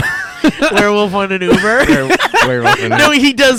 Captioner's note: laughing